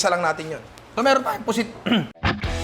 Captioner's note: clears throat; outro music